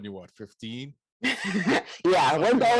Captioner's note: laughs